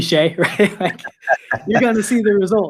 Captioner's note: both laugh